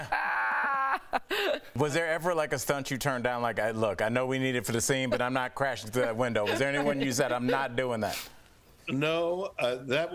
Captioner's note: laughter